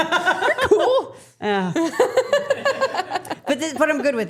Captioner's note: laughing